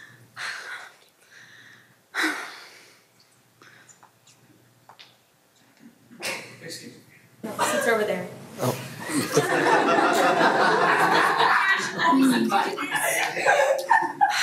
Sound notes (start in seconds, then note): 9.0 everyone laughs